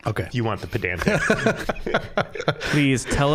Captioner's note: all laughing